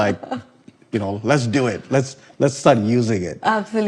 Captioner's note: laughing